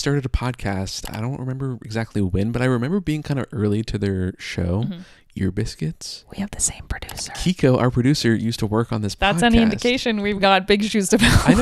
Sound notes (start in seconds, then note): 6.6 whispers